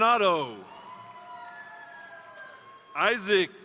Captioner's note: crowd cheering; crowd applauding